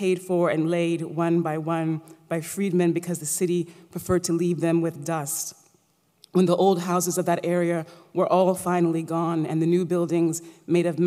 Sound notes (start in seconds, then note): none